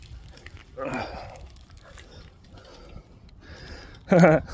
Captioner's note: Frank sighing